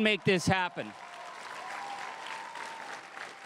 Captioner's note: crowd cheering and applauding